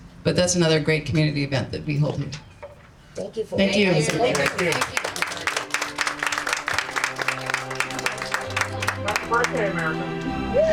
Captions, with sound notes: But that's another great community event that we hold. Thank you. [APPLAUSE] Happy birthday, America.